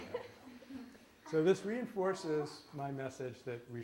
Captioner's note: laughter